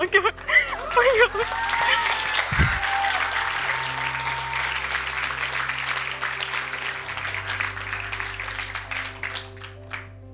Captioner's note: cheers and applause